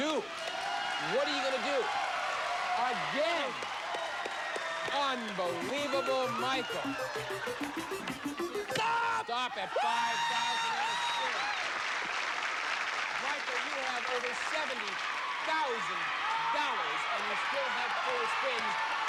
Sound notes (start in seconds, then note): 11.1 cheers and applause